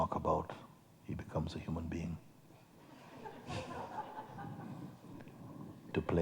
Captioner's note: laughter